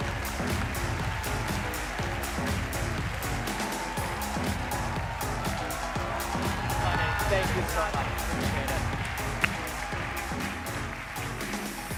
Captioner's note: cheers and applause